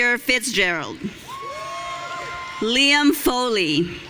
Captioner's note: audience cheering